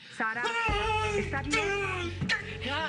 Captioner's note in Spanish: Quejidos